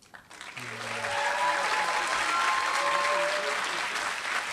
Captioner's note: applause